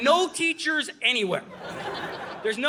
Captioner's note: audience laughing